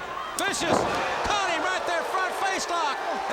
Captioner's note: crowd cheering